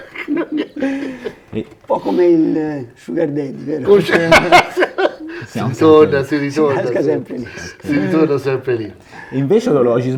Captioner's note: laughs